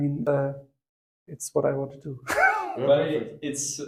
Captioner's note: laugh